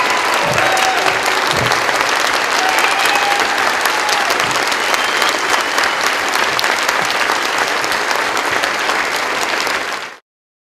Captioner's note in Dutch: Gejuich, applaus